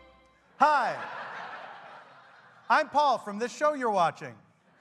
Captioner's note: laughter